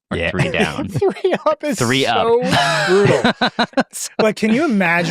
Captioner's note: laugh